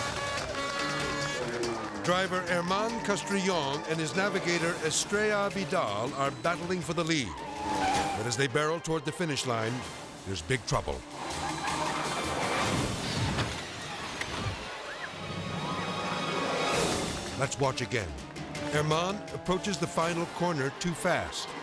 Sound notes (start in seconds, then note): 0.2 car beeping; 7.2 car skidding; 11.1 car skidding; 11.3 suspenseful music; 12.8 car crashing; 12.8 dramatic music; 15.5 edgy dramatic music